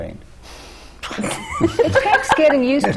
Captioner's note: laughter